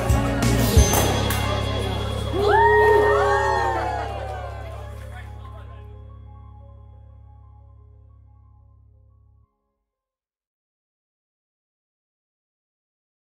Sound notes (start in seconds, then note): 0.8 champagne Bottle Pops; 2.3 crowd Cheers